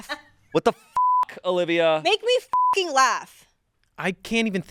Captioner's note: beep